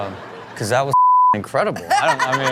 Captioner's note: beep; Chanel laughing